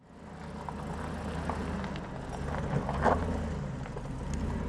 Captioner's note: engine rumbling